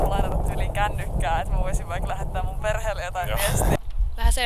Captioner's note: laughs